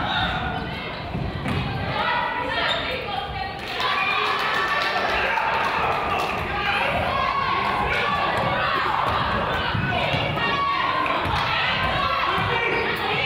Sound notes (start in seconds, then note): 3.7 crowd applauds; 9.2 coach yells; 11.0 claps